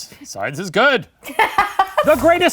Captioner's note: laughing